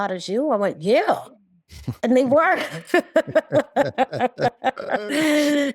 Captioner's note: both laugh